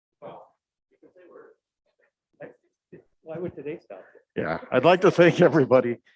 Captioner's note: faintly speaking